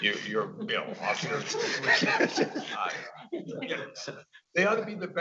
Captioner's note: audience laughing